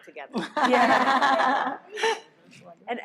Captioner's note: laughs